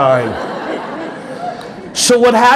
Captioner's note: audience laughing